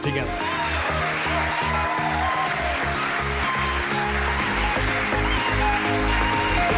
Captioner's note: audience cheers; upbeat pop music